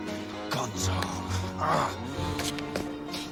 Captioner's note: growls